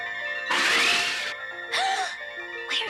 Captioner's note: gasps